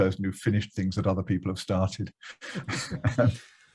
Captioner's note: laughs